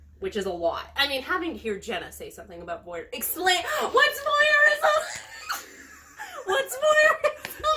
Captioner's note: screeching laughter